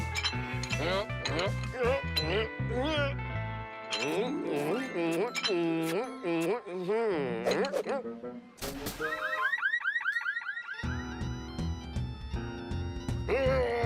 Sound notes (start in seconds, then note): 3.1 smooching; 9.0 car alarm blaring; 12.6 grunting